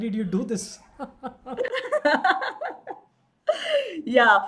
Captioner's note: both laughing